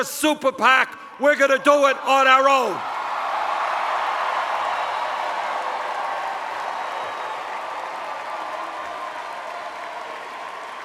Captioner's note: cheers